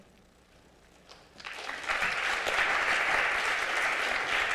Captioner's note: applause